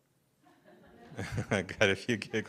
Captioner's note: audience chuckles